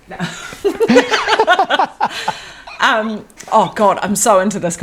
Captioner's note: both laughing